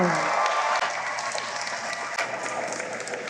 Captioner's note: applause